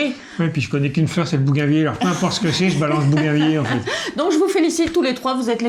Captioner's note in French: rires